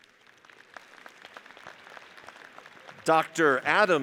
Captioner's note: audience applauds